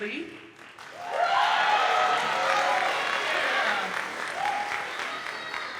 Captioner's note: audience cheers and applauds